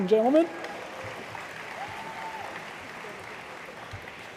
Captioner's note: applause